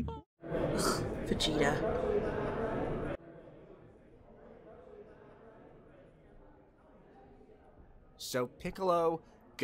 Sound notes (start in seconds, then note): 0.6 BULMA scoffs